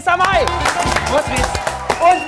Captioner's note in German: Jubel